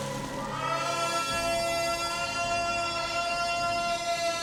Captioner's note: shouting